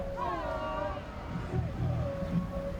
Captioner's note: crowd